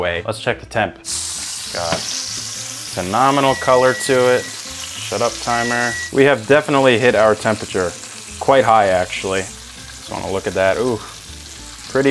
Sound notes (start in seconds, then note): 1.3 chops sizzling; 3.4 timer beeping